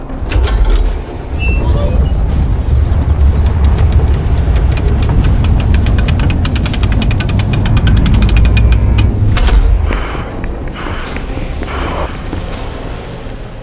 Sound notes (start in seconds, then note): 0.2 gate creaking; 9.5 heavy breathing